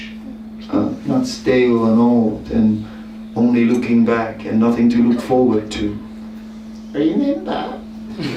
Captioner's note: immitates old woman; laughter